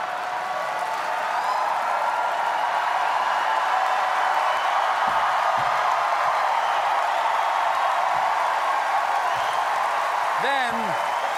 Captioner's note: cheers